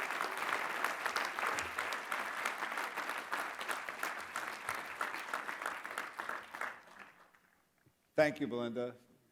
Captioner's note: applause